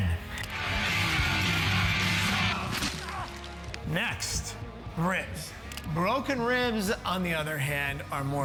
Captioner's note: rock music; body parts breaking